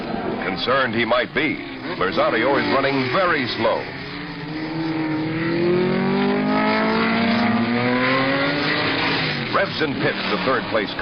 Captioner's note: engine